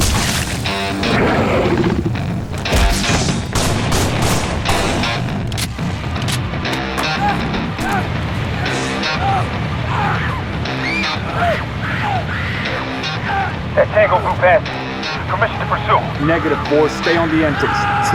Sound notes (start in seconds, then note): 0.6 growl; 8.7 yelling; 11.9 scream; 13.9 radio